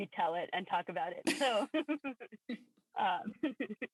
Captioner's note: laughter